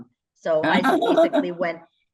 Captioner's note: laughter